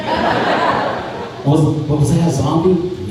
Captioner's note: crowd laughing